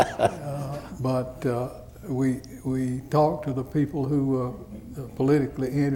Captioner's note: laughter